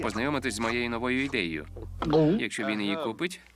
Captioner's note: swallows